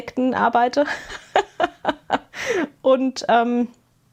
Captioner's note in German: gelächter